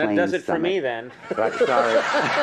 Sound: laughs

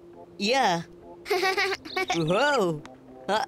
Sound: laughing

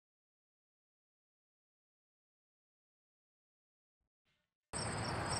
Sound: crickets chirping

